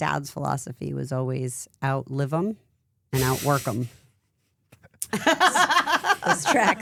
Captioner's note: laughing